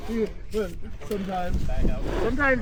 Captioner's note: laughing